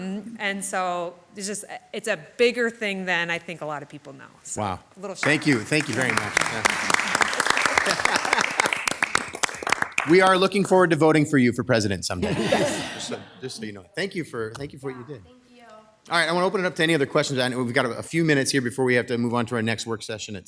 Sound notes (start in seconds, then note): 6.7 all applauding; 7.7 laughing